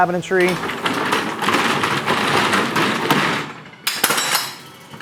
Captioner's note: truck rattles